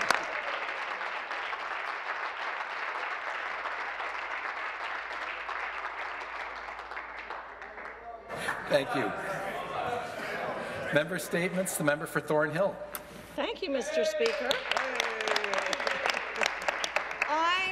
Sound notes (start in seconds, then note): 2.5 cheers and Applause; 6.9 laughter